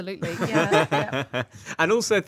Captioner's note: everyone laughing